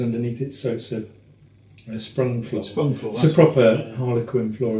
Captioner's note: none